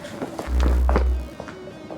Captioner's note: magnet buzzing; dramatic music